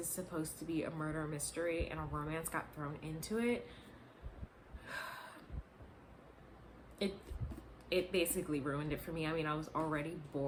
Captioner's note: sigh